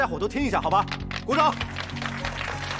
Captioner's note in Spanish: Aplausos